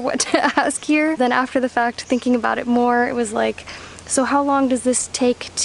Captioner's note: chuckles